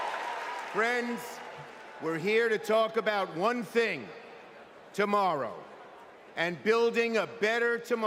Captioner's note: cheers and applause